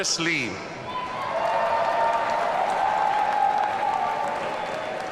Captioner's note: audience cheering